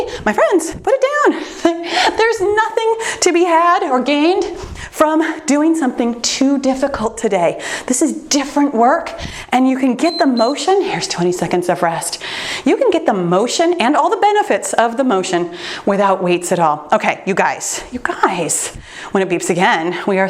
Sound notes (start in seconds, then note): 10.0 timer beeps